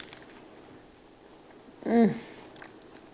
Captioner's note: crunching